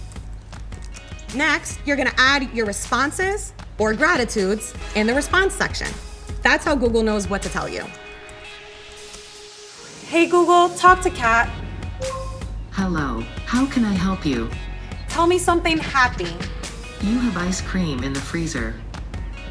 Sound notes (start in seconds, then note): 12.0 Google Home beeping